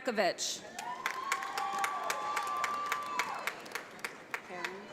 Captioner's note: audience applauds